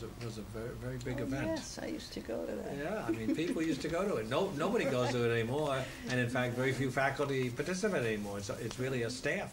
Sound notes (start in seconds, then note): 3.0 laughs